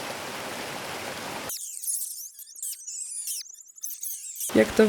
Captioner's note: squeaks